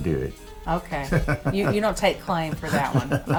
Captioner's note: laughs